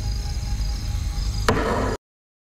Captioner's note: Gavel Bangs